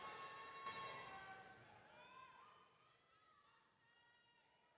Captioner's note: applause